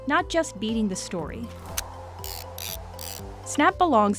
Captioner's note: click and whirl of a disposable camera